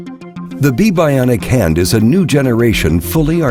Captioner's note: voiceover